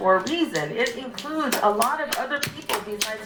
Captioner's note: people clapping